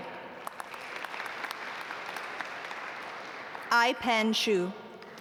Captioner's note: audience applaud